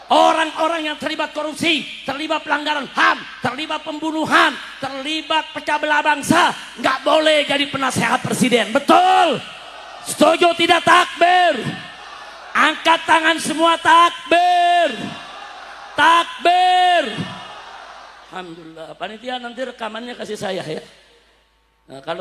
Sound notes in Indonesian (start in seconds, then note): 8.9 berteriak; 14.5 bersorak